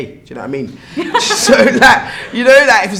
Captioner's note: laughs